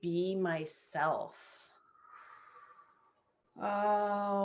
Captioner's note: exhales